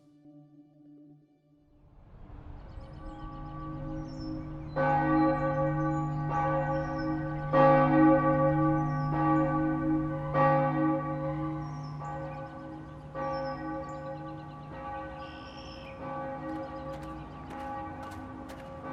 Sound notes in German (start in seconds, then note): 1.6 Ein Kirchturm, Glocken läuten